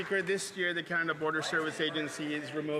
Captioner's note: applause